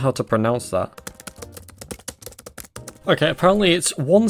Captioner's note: typing